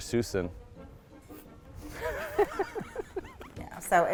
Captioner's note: laughing